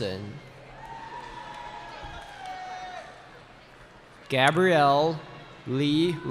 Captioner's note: cheering